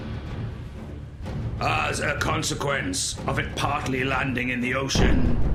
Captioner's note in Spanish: explosión